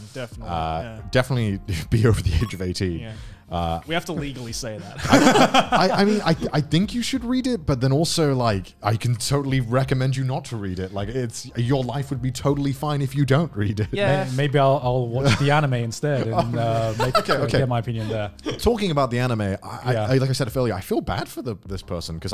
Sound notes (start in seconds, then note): 4.8 laughing loudly